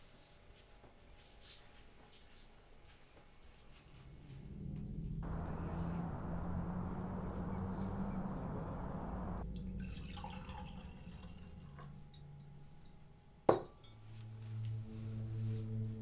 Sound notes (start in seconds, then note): 4.1 threatening ambient music; 9.5 juice poured